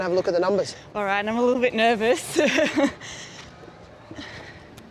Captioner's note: chuckles